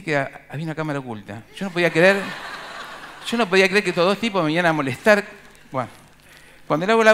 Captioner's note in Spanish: Risas